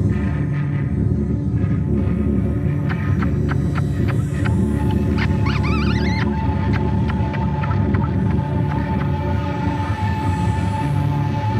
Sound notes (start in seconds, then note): 5.1 bird calling